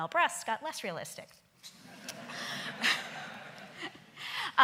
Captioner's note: laughing